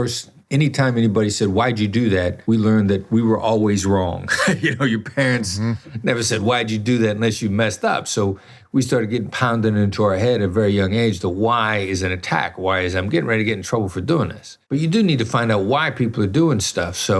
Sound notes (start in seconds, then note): 4.2 laughs